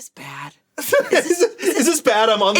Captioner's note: laughs